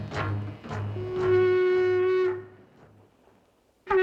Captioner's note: shell blowing